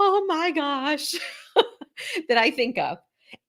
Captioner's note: laughs